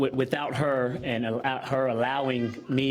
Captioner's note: laughter